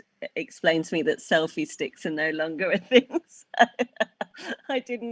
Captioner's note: laughs